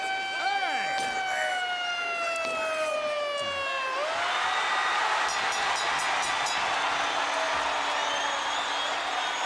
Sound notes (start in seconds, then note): 3.8 audience cheering; 6.1 bell ringing